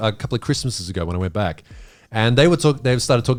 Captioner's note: none